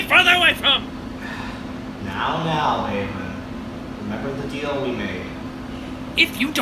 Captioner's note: sighs